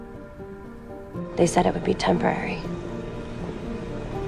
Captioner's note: voiceover